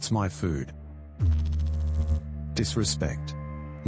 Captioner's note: electrical noise